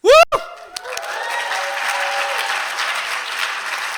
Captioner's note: applause